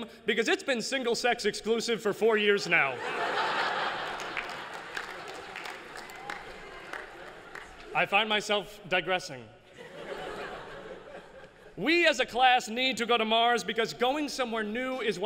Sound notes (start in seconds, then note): 2.9 laughter; 3.8 applause; 9.7 laughter